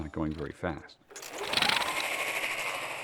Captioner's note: whirring softly